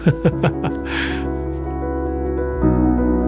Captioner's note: short laugh